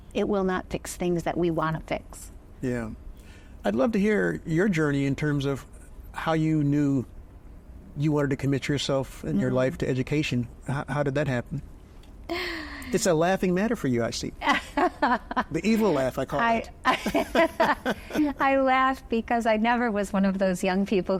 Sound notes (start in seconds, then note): 11.8 chuckles; 14.4 laughs; 16.8 both laughing